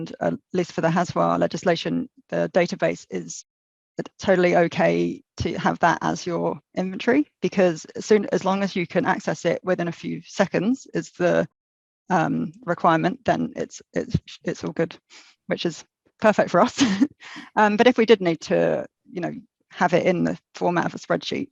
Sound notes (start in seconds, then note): 16.7 laughs